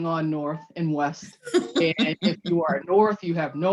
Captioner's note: laughs